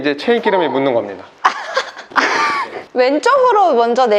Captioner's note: laughter